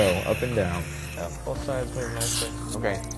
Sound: background Discussion

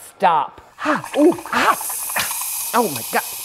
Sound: espresso machine whooshing

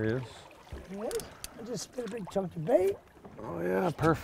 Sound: reel cranking

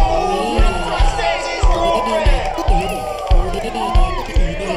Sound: "Oui" rhythmically echoing

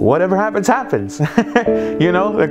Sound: laughs

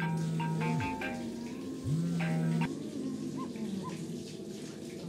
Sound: shower running, woman singing

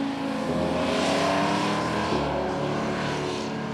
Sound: engine roars

